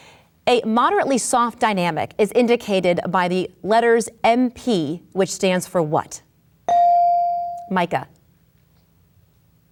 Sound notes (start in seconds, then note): 6.7 bell dings